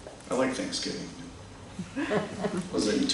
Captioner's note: laughter